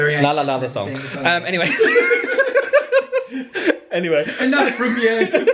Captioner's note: both laugh